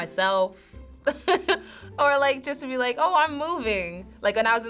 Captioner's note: chuckling